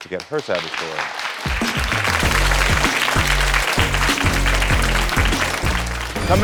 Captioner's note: applause; upbeat music